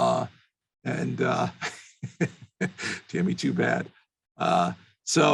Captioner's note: laughs